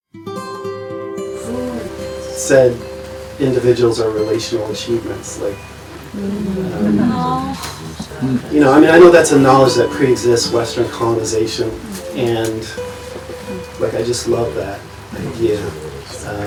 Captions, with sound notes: (guitar music) - Who Said, individuals are relational achievements? (group and baby noises) - You know, I mean I knew that's a knowledge that pre-exists Western colonization, and like, I just love that idea.